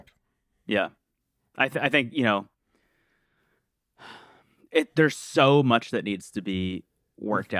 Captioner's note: sighs